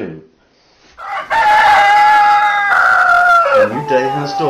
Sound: cock crows

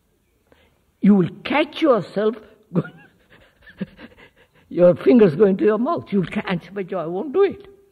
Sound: laughs

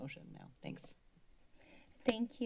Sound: silence

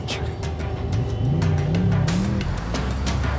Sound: car engine sounds

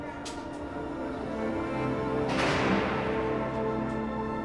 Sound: door closes

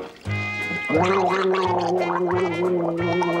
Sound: gargles

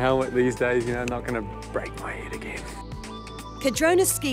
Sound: whispers

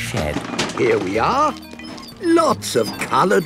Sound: bangs and rattles

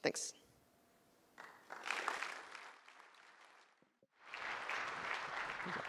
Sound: applause

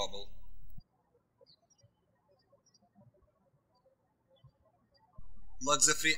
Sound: birds chirping

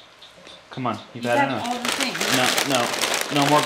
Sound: foil rustling

